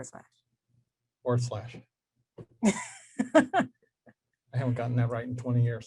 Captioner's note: laughs